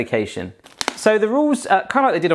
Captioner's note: cracking noise